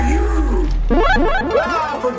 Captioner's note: banishment Noises